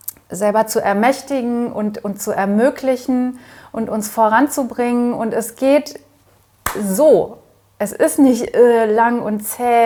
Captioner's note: claps